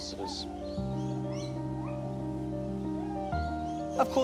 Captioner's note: gibbons call out